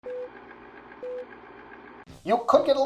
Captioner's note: beeping